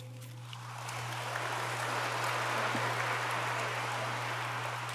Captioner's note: audience applauds